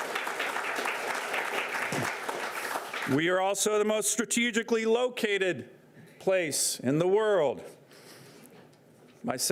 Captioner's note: applause